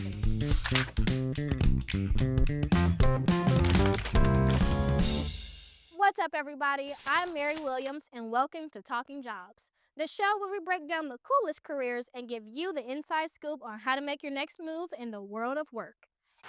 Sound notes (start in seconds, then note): 0.0 lively music; 3.2 paper crinkling